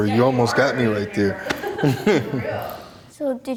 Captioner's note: laughs